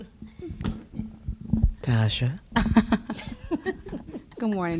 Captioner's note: laughter